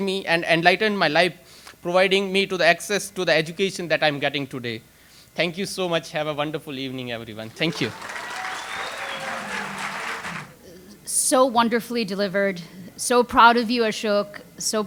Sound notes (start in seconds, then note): 7.4 audience applauds; 7.4 audience cheers